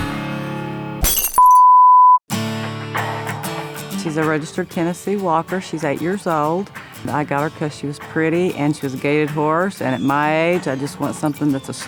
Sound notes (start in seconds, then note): 1.0 glass breaks; 2.7 country music